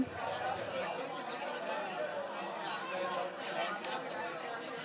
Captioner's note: audience chatting